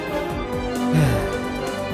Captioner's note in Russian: вздох